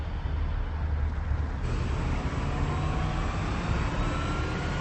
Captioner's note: engines revving